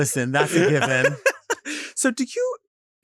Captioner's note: laughs